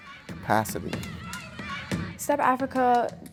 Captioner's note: stomping and clapping